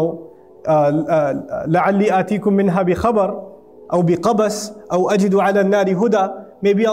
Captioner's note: Arabic